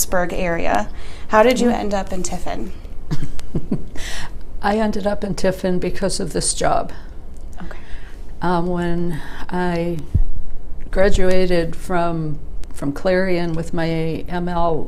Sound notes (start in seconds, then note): 3.1 chuckles; 6.2 whispers, ‘ok.’